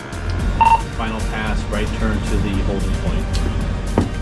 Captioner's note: beep